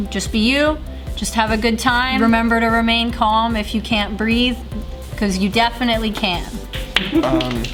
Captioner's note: applause off-screen